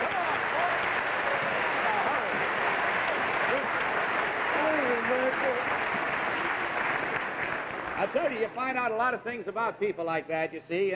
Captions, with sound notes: - Come one, boy. Now, hurry. (audience applauding) - I tell you, you find out a lot of things about people like that, you see,